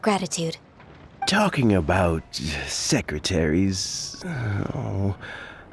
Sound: sigh

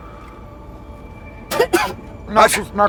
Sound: coughing

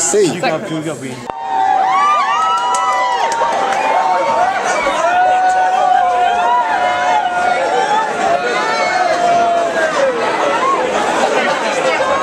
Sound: cheering and general bar noise

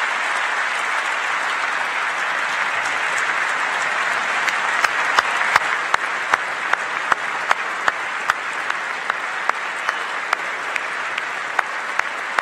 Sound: applause

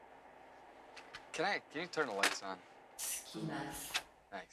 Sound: woman's voice in japanese

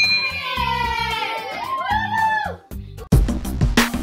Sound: ding; cheers; fun music

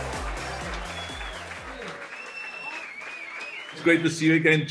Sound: crowd cheers

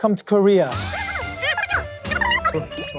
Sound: Chit-chatting as sunbae-nim is making dalgona

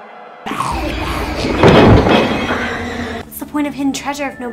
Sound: growling

